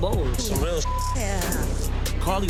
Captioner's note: beep